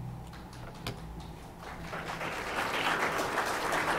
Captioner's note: applause